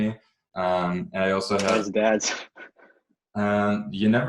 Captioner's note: chuckles